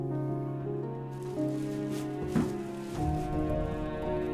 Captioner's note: rustling